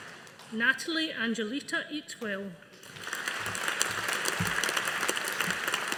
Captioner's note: audience applauding